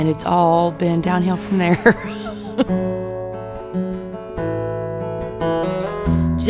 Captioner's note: laughs